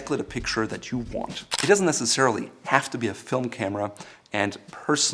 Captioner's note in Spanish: Sonido de captura de foto